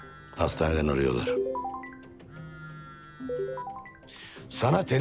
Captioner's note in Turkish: Telefon Çalıyor